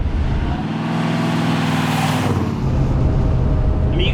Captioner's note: car engine rumbling